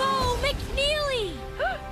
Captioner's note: gasp